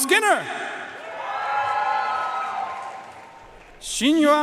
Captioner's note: audience cheering and applauding